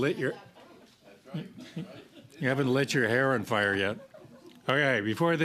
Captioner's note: laughter